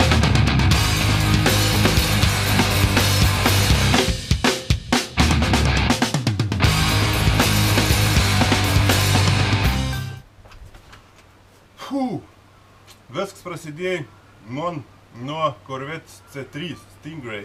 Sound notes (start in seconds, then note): 11.8 phew